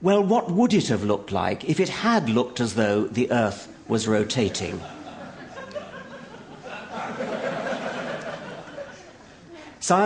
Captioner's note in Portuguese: Risos